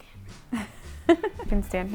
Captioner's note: laughs